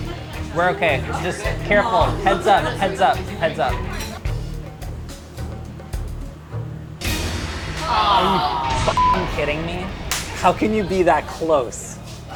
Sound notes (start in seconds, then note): 0.1 dramatic music; 7.6 all groaning